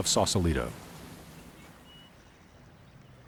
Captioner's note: birds chirping